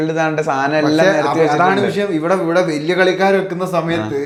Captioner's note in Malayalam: തൊണ്ട ശരിയാക്കുന്നു